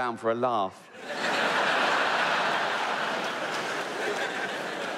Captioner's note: audience laughs